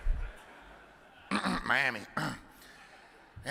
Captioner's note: audience chuckles; clears throat